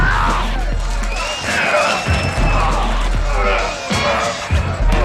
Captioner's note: crowd cheering